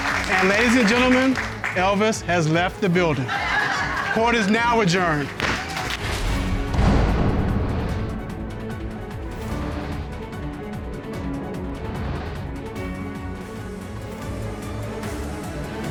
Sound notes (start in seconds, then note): 3.1 audience laughs; 6.7 dramatic music playing